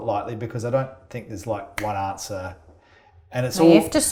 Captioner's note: snaps